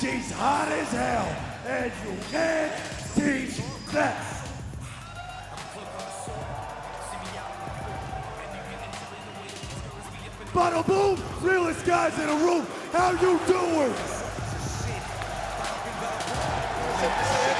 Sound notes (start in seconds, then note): 5.9 crowd cheering